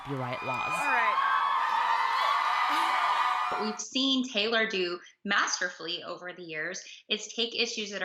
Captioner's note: cheers and Applause